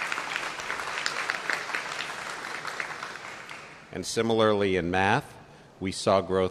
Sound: applause

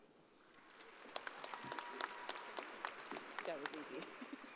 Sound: audience applauding

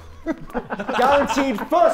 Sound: Sidemen laughing

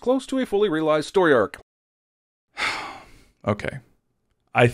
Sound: sighs

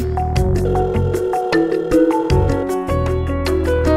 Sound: phone ringing

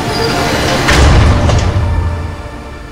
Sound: dramatic door shut!

